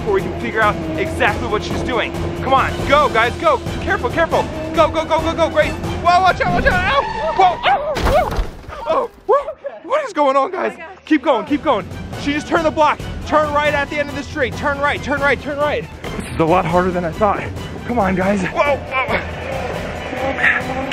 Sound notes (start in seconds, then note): 7.2 car tyre squealing; 8.0 car crashing